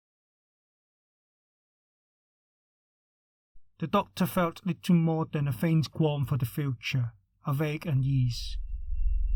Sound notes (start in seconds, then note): 8.4 humming noise